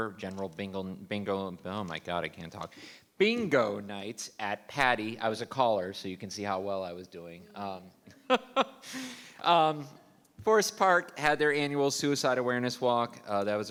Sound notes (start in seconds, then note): 8.2 laughs